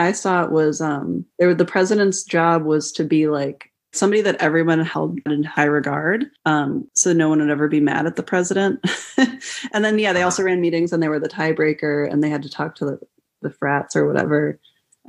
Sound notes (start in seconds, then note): 8.8 laughter